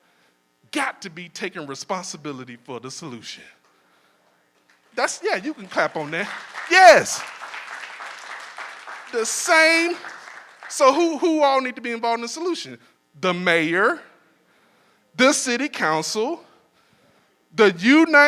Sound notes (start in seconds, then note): 7.2 audience applauding